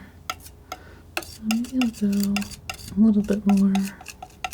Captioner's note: tapping